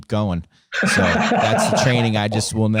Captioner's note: laughing